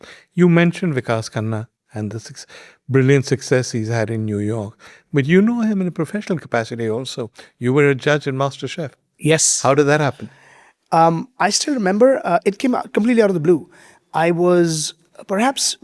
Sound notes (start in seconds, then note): none